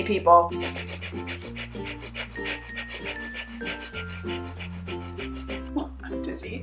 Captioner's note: fast breathing